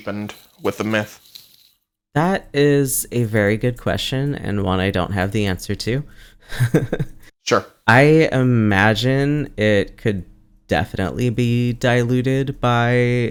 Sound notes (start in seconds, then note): 6.1 laughs